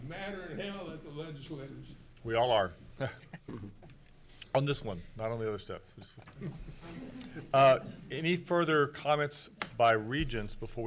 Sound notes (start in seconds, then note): 3.0 chuckles